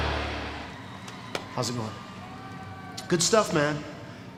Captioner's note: hand pats